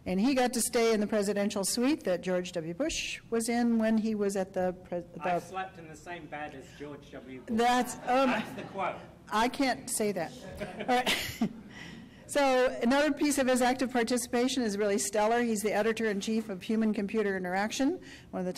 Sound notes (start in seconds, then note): 5.4 voiceover; 10.4 chuckles